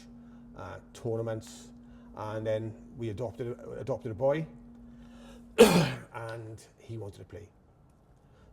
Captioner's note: coughs